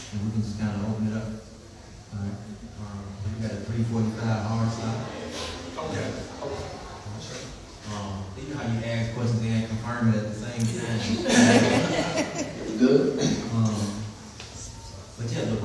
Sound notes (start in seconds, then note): 10.7 laughter